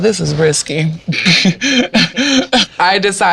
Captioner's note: laughs